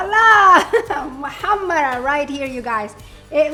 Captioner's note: laughs